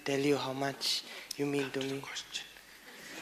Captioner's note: whispering; laughter